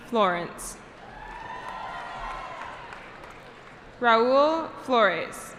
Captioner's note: cheering